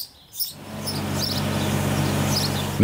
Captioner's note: engine roaring